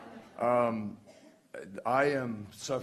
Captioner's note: laughter